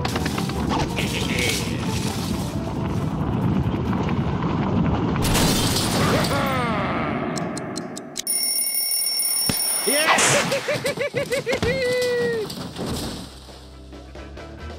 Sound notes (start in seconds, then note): 0.8 laughs; 8.2 bell rings; 10.0 laughs